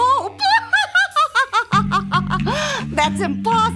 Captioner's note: laughs